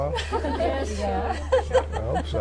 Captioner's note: laughter